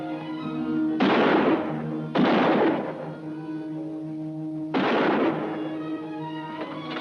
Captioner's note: música emocionante; explosión de armas